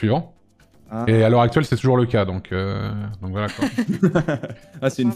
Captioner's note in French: rires